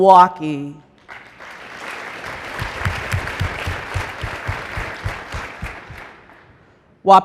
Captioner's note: applause